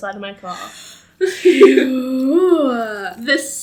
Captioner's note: giggles